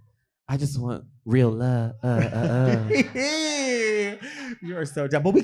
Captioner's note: laughing